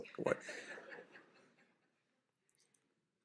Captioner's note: laughter